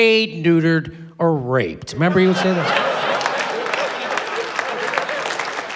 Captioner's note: applause